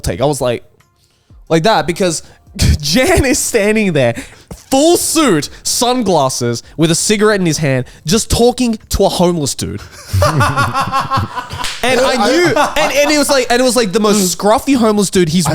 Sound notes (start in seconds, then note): 9.8 laughs